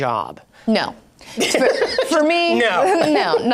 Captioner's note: laughing